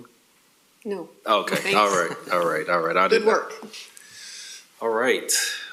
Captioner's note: laughing